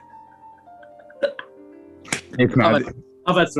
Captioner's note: quiet laughing